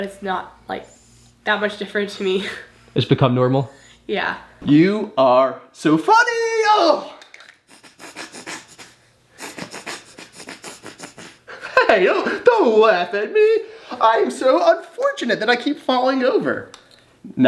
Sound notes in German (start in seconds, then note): 6.9 stöhnt; 9.4 lacht